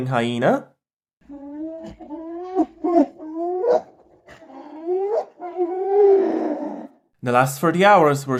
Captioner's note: yeen noises